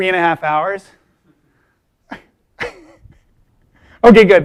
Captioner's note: chuckling